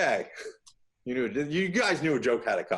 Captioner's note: laughs